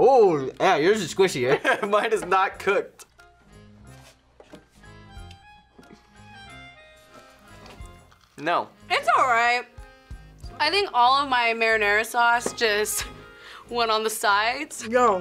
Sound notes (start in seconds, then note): 2.2 laughs